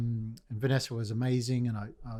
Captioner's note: none